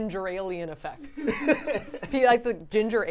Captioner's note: laughing